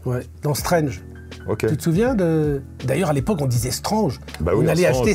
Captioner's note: French accent